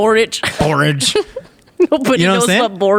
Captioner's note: laughing